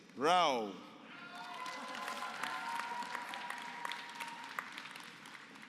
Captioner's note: applause